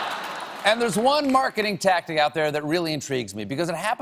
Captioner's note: laughter